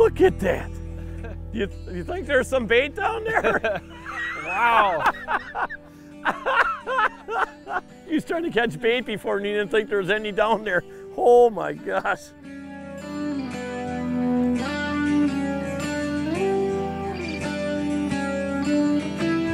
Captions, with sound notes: Look at that. You think there's some bait down there? (laughter) He was trying to catch bait before, and he didn't think there's any down there. Oh my gosh.